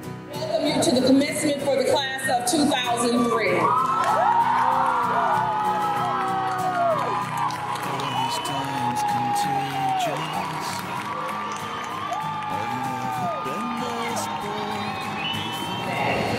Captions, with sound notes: Welcome to the commencement for the class of 2003. [applause]